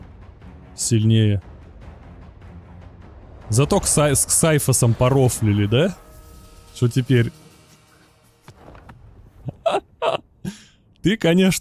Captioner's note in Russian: смех